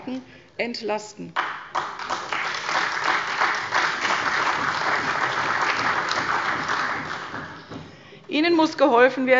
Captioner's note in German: Beifall bei der CDU und dem BÜNDNIS 90/DIE GRÜNEN